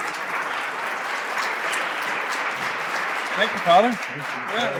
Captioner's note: applause